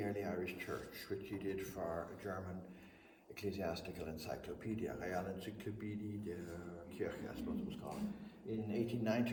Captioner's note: speaks German